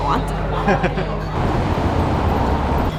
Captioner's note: both chuckling